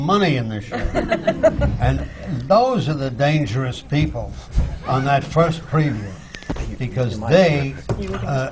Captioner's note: laughter